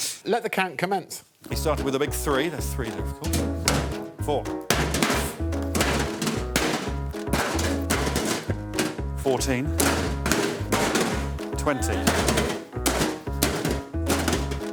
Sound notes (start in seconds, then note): 7.1 cans thudding; 12.1 cans thudding